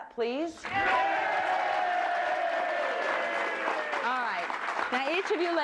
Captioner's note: all cheering